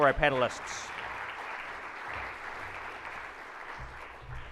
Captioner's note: audience claps